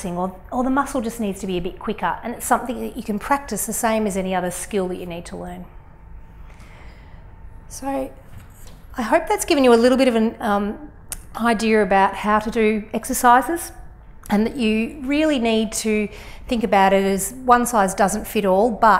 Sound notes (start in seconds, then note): none